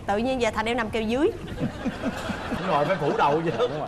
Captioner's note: laughing